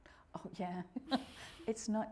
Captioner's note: laughing